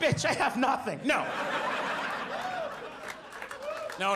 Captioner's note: audience laughs